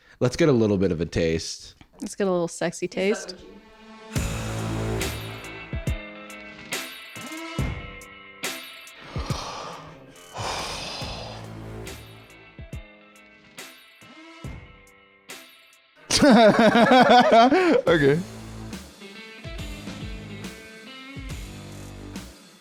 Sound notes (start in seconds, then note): 9.0 exhaling disgustedly; 16.1 laughing